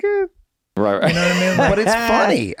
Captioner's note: Glenn laughs; Charlie sighs